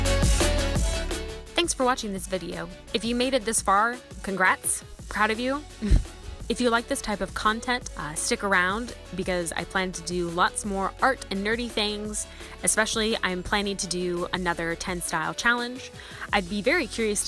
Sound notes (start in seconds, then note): 5.8 chuckle